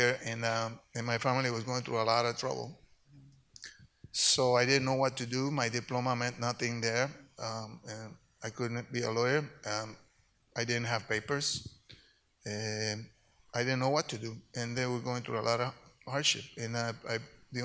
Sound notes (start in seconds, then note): none